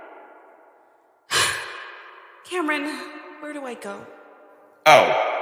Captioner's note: sighs